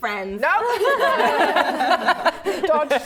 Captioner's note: laughing